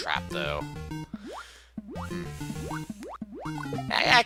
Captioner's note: breathing